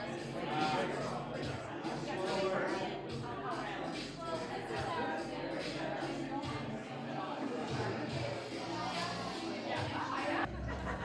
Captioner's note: crowd sounds